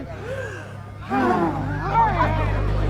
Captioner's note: all sigh